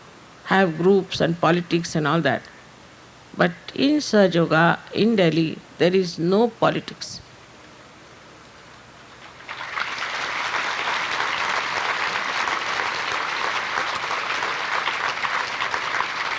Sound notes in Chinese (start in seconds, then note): 7.5 掌聲